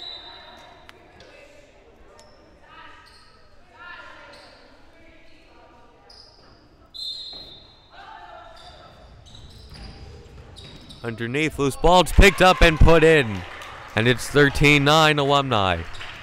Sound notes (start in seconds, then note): 0.0 whistle blowing; 6.9 whistle blowing